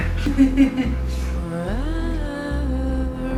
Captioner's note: laughing